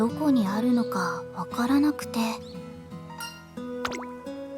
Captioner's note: none